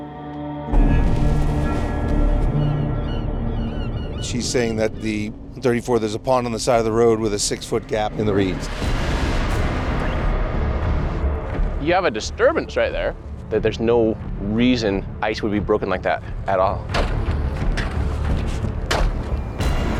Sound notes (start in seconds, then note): 1.3 dramatic music; 3.7 birds cawing; 17.0 shovel tapping